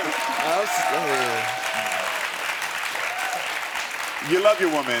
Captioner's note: audience cheering